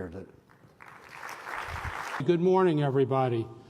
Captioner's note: applause